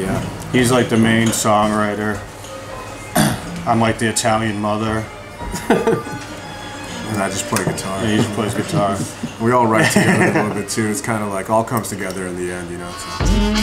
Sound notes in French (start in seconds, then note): 5.5 Rires; 9.7 Rires